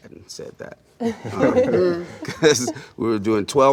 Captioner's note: collectively laughter